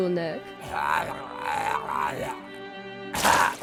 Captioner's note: blowjob noises